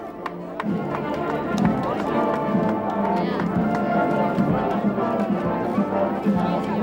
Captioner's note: applauding; vibrant music; chattering